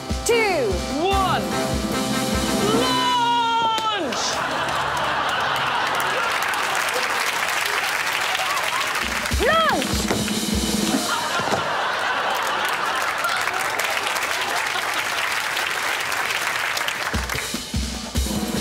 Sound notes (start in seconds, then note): 4.0 audience laughs; 6.2 applause; 10.7 audience laughs; 13.9 applause